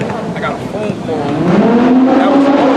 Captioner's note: car revs